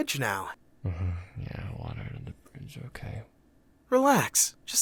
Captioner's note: grumbling